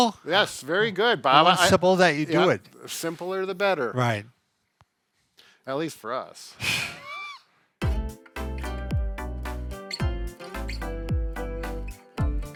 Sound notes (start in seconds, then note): 6.9 laughs; 7.8 instrumental music